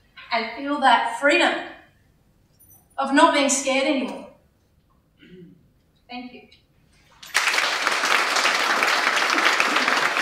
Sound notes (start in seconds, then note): 7.1 applause